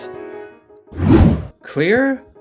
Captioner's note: whoosh